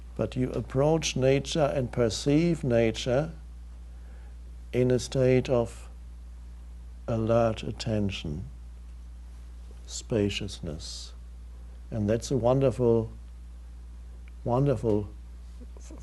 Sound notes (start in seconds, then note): none